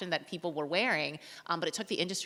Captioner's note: none